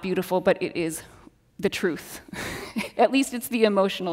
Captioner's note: laughs